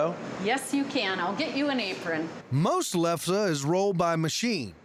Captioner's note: none